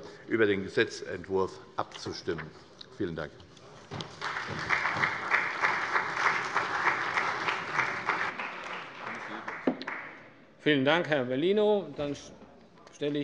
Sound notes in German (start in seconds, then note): 4.0 Beifall bei der CDU, dem BÜNDNIS 90/DIE GRÜNEN und der SPD